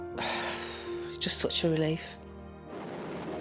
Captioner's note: sighs